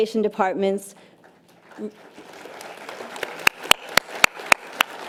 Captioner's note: audience applause